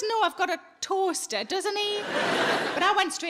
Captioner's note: audience laughing